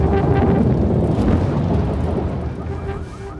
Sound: boom; alarm

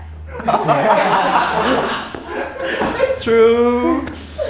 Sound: everyone laughs

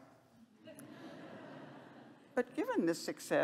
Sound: laughter

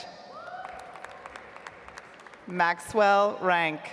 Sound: audience applauds

